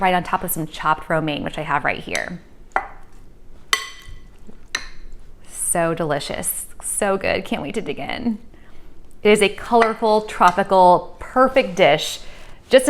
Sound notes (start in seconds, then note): 3.7 spoon clinking